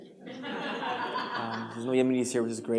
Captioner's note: laughter